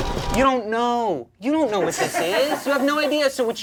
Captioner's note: background laughter